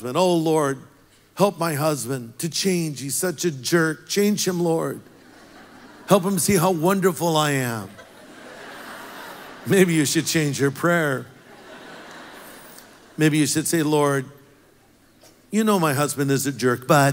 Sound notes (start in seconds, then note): 5.2 congregation laughs; 8.1 congregation laughs; 11.7 congregation laughs